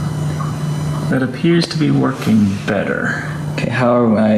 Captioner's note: hesitantly